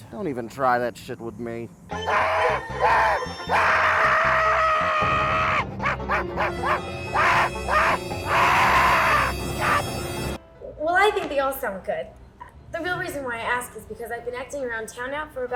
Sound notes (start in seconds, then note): 1.9 actor shrieking; 5.2 dark music